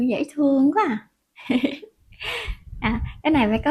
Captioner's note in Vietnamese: tiếng cười